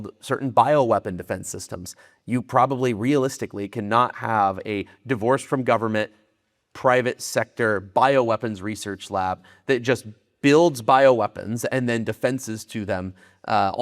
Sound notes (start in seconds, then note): none